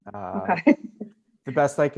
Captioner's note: laughs